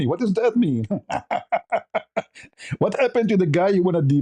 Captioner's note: ketawa